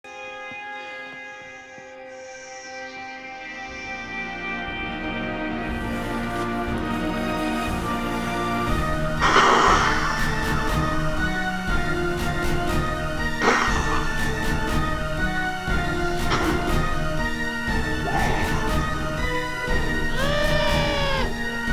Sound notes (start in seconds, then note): 0.2 dramatic music; 8.7 snake hissing; 9.0 dramatic music; 13.1 snake hissing; 15.6 dramatic music; 20.1 screaming